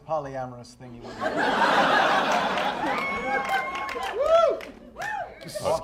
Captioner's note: laughter